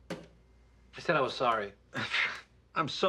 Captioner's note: pshs